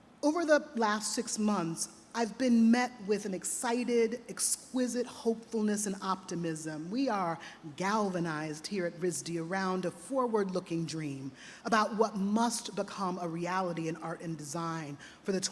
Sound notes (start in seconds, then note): none